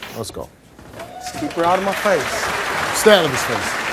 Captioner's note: audience applauds